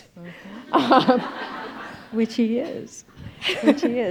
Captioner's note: audience laughing